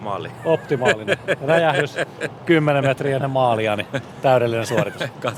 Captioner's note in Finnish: naurua